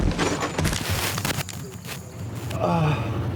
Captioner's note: Stephen crashing; Stephen groaning